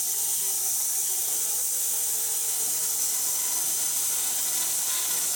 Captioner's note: saw whizzing